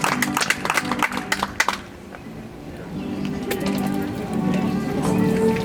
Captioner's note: audience applauds